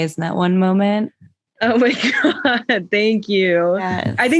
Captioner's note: laughs